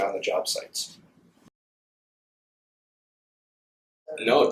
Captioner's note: silence